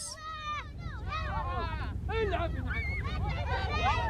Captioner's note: all chattering